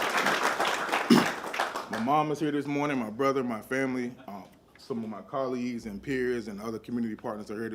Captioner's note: applause